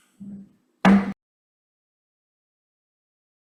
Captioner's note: gavel knocks